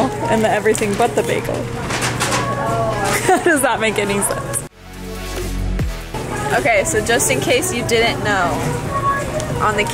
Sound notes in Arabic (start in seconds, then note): 3.1 يضحك